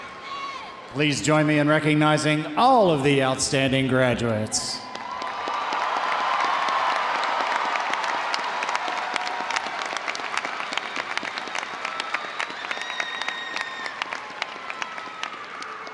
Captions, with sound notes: Please join me in recognizing all of the outstanding graduates. (audience applauding) (audience cheering)